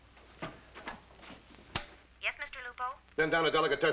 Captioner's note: voiceover